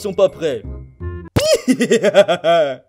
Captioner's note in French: rires